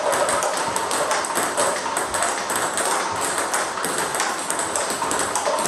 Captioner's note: ball ping pong hitting continues